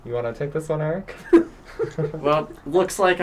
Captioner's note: laughter